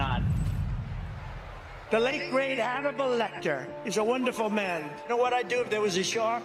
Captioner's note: applause